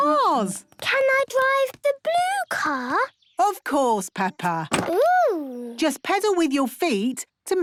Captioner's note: none